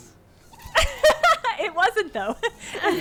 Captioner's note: laughs